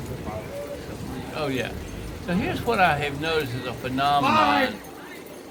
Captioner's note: shouting